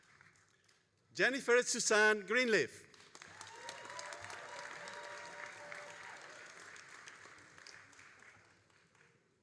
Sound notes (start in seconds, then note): 2.9 all applauding and cheering